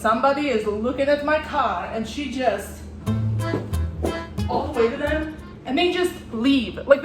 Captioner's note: stomps